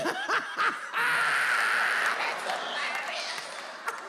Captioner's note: laughs; audience laughs